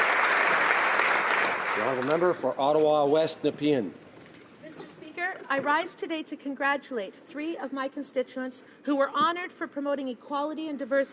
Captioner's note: applause